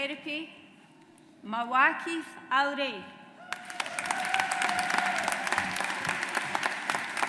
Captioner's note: audience applauds